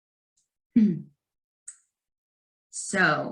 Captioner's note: clears throat